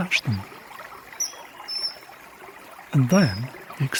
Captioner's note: chirping